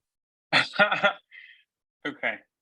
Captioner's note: laughs